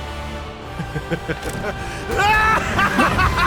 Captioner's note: laughing